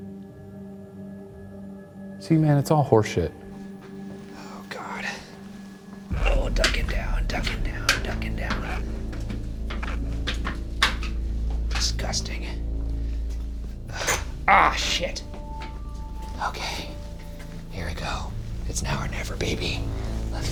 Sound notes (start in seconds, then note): 9.4 object clanking; 14.2 helmet thuds